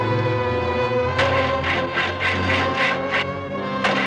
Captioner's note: engine cranking